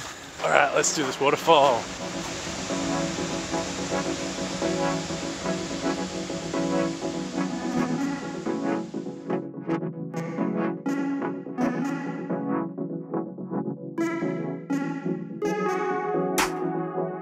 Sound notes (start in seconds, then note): 1.4 water splashing; 3.8 playful music